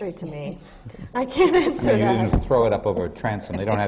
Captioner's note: laughs